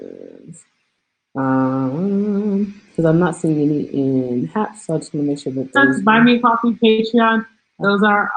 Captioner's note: background noise from another platform